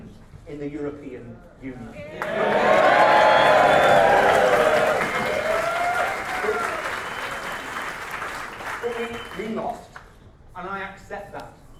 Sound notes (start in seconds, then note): 2.1 audience clapping and cheering